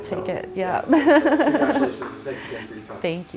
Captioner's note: laughing